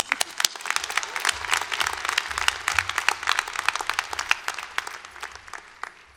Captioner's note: applause